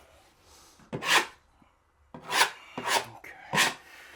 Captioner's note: tool scraping